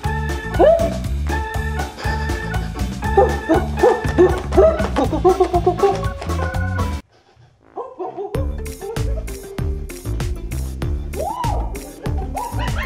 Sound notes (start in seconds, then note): 1.9 sniffs